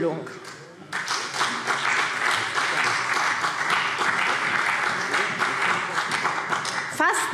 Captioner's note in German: Beifall CDU und BÜNDNIS 90/DIE GRÜNEN